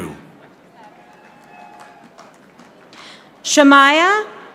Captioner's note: audience applauding